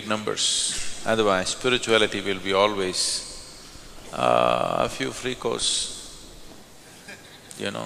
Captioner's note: laughter; 笑聲